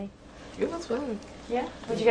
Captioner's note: voiceover